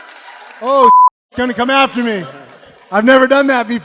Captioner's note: beep